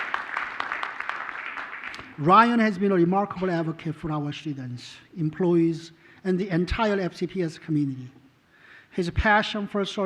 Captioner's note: applause